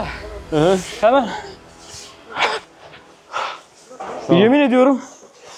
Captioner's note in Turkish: nefes nefese kalma